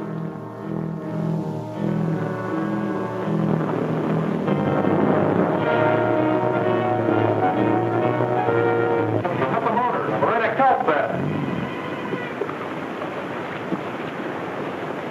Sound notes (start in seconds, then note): 4.9 boat hums; 4.9 dramatic music